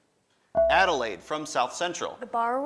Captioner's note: buzzer dings